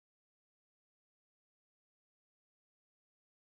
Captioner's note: none